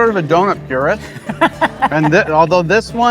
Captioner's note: laughing